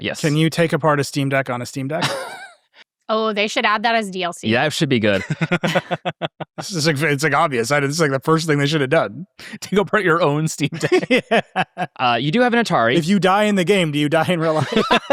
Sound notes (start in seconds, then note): 1.9 participants laughing; 5.1 laughing; 10.2 participants laughing